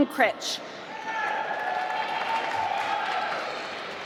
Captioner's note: applause